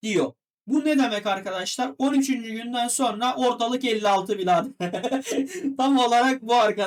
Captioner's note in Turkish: kahkaha